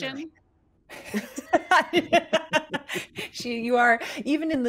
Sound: laughter

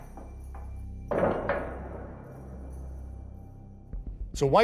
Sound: door closes

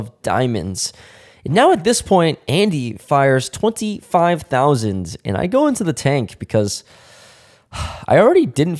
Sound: sigh

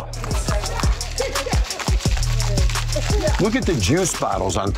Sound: ice rattles

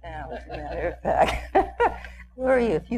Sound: chuckles

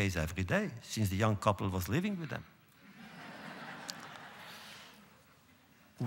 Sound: laughter

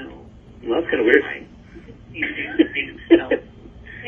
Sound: laughing

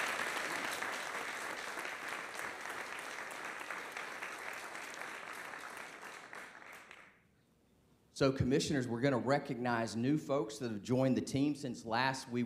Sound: applause

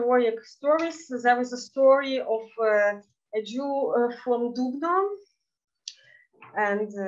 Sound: speaking in Yiddish

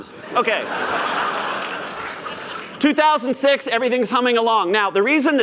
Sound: laughter

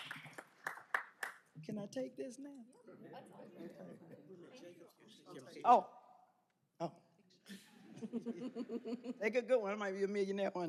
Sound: applause; laughter

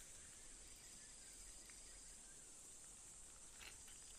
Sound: chewing

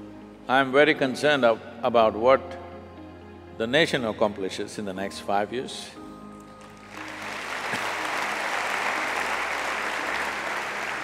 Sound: applause

